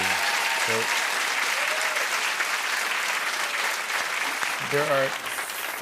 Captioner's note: cheers and applause